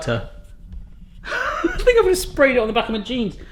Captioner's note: laughs